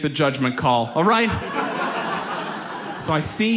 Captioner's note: audience laughs